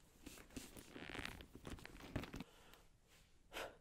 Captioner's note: leather sounds; workout sounds